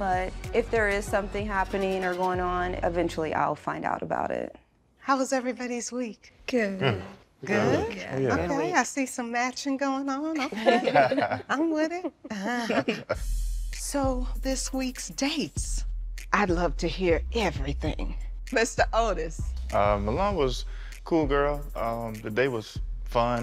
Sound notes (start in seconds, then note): 12.6 all laughing; 12.9 chuckles